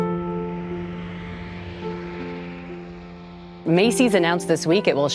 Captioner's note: traffic whizzing; light music